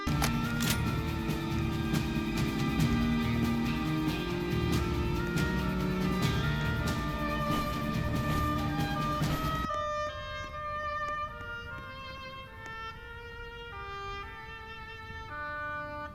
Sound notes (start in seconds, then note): 0.0 revolver reloads; 2.3 player footsteps; 9.8 regular footsteps, no emotion here